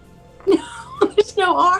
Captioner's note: laughter